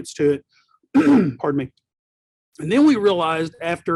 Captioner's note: clears throat